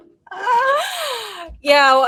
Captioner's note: woman laughing